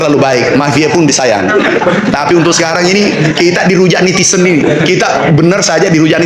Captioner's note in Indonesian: tertawa